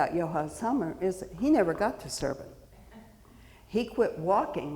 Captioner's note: audience member chuckles